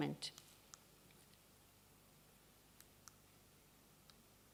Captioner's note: silence